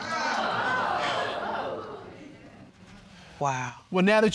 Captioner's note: audience exclaiming